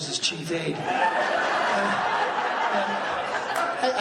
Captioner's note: laughing